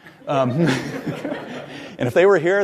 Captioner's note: audience laughs